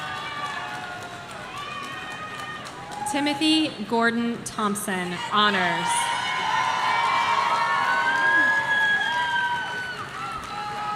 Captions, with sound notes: Timothy Gordon Thompson, Honors. (audience cheering)